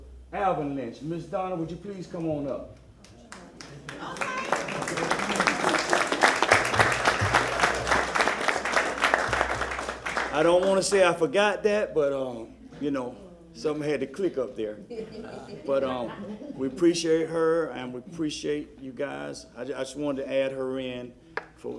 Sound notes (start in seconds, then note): 8.0 applause